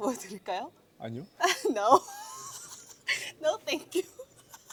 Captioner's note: laughs